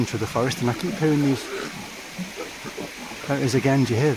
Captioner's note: strange growling in distance